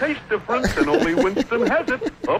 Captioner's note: laughs